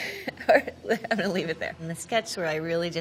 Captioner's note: laughing